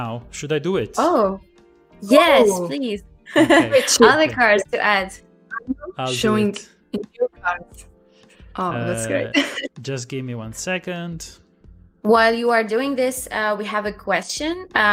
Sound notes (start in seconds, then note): 3.3 laughs; 8.8 laughs